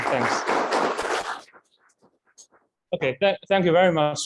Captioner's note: audience clapping